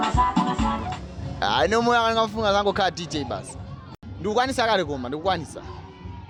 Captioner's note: speaking foreign language